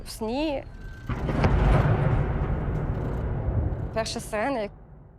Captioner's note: air raid siren blaring and explosions